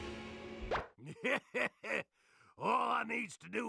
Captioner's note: laughing